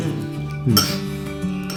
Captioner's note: nonverbal grunt as interjection